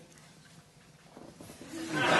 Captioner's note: laughter